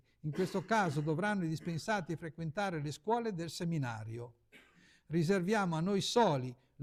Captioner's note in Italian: schiarire la voce